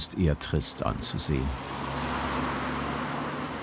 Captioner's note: car rustling